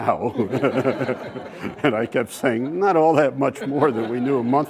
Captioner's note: laugh